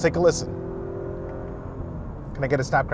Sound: engine revving

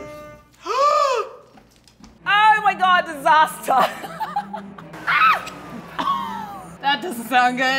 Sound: laughs loudly

